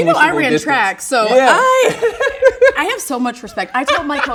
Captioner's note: laughs